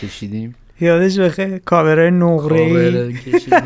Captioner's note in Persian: خنده